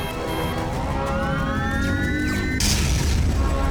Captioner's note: computers beeping; powering up